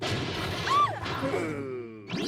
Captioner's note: growling